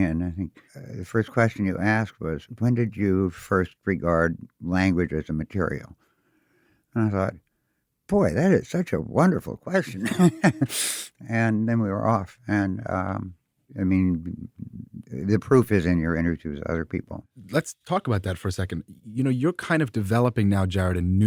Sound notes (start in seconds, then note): 9.8 laughs